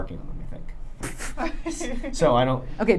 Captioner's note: laughing